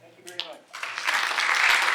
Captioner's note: applause